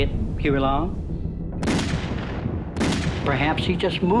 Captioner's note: gun shots